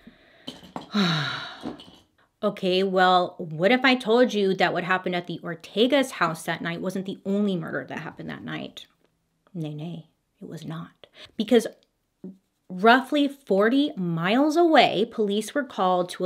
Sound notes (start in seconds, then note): 0.8 sighs